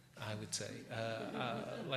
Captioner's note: laughter